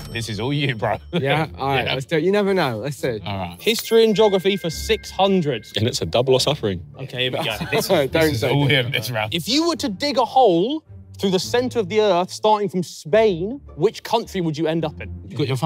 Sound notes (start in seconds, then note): 7.3 laughing